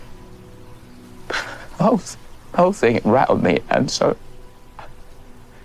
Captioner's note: sobbing